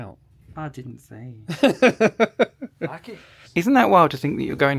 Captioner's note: laughing